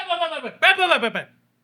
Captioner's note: speaking Spanish